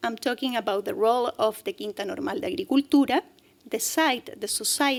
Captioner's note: speaking spanish